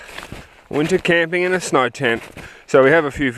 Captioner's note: voiceover